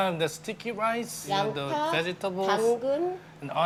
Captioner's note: woman speaking Korean